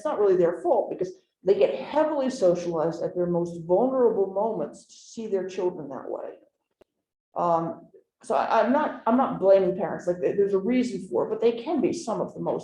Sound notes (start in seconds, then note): none